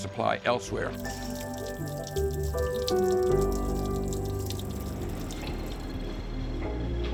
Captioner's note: water dripping